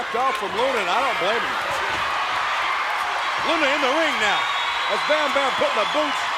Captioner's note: applause